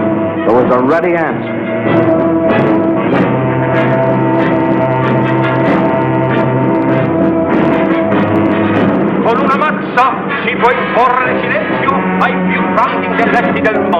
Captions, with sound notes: there was a ready answer. (man speaking Italian)